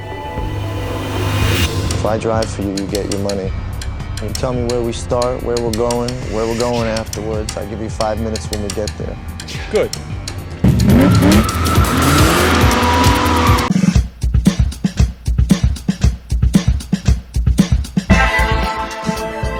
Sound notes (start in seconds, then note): 10.6 car engine revving and pulling away; 14.0 intro Music